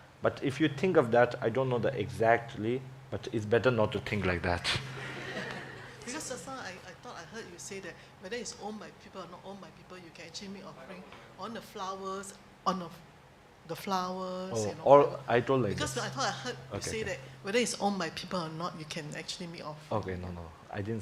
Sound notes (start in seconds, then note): 4.7 laughter